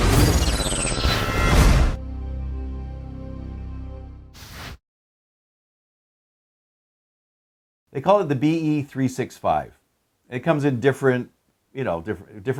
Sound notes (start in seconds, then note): 2.0 bright music; 4.3 logo swooshes